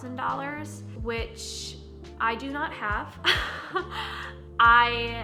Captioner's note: chuckles